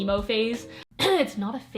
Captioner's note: clears throat